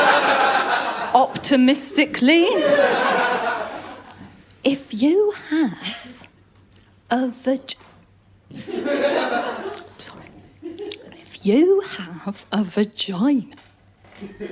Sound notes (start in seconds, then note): 0.0 laughter; 2.4 laughter; 7.7 retches; 8.5 laughter